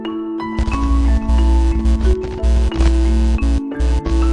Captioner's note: buzzing sound